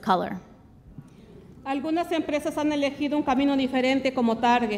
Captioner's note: speaks Spanish